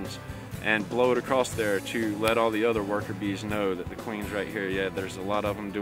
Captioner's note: none